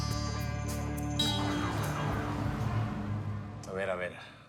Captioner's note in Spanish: ruido del tráfico